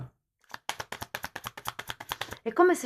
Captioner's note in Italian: Applauso